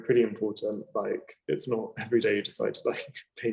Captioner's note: chuckling